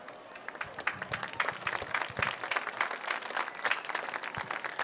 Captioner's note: audience applause